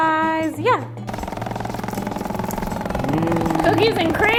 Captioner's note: vibrating table whirring